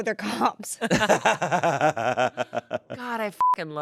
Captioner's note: everyone laughs; beep